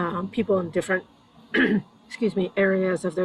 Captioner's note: clears throat